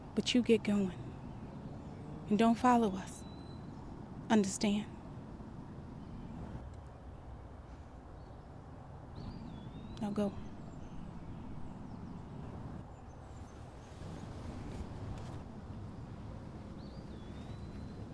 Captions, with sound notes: but you get going and don't follow us, understand? Now go. (birds chirping)